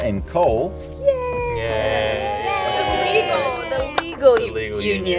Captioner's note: all cheering